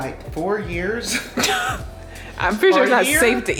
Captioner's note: laughing